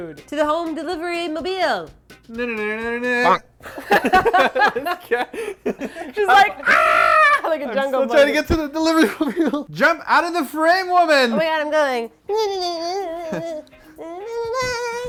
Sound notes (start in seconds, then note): 2.6 laughing; 3.1 bonk!